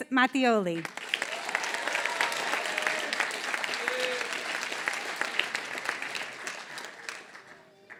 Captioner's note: applause